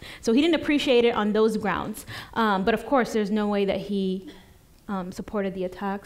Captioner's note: none